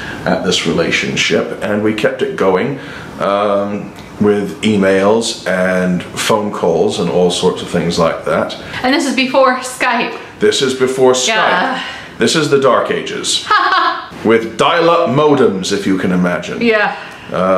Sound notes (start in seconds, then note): 13.4 laughs